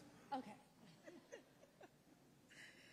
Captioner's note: both laughing